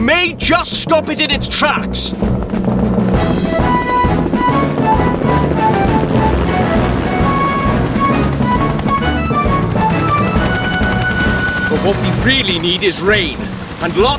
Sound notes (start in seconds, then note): 3.0 helicopter Rotors Whir; 3.0 heroic Music